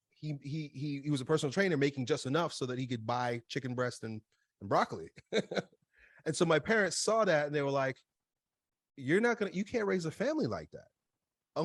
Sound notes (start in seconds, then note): 5.2 laughs